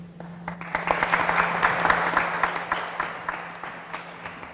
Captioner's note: applause